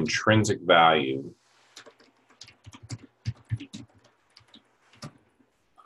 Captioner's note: typing Sounds